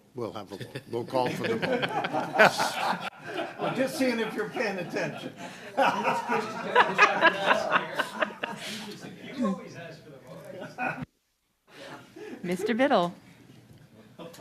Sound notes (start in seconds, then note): 6.2 laughter